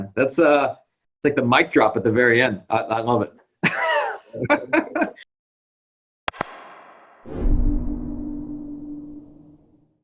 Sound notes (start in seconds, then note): 3.6 laughter; 6.3 click; 6.3 whoosh